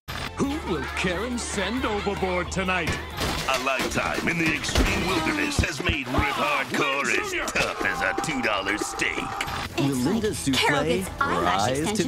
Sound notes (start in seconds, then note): 2.9 distant chattering